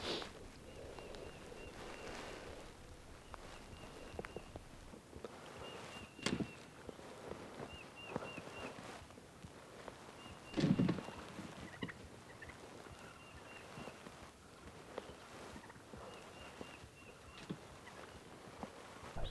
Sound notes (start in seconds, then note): 5.5 wings flapping